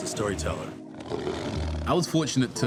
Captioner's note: tiger growls